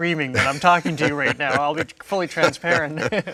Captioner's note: both laughing